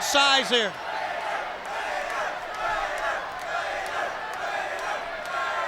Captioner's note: crowd chants "Vader"